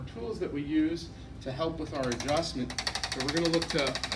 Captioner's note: tool vibrates noisily